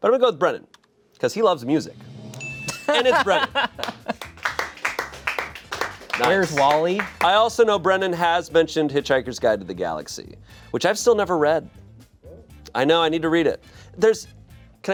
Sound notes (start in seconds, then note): 2.4 chime dings; 3.0 audience members clapping